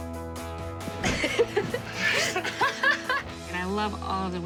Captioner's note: laughing